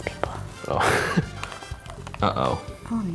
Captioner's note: chuckles